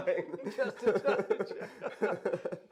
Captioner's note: mutual mirthful laughing